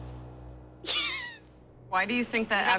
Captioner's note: laughs